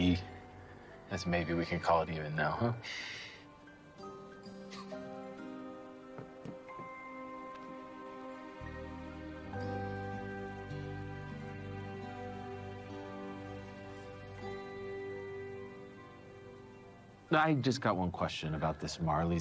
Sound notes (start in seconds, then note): 4.6 chuckckles; 5.3 instrumental music